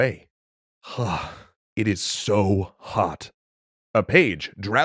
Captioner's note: sigh